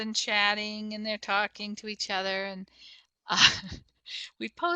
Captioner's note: chuckles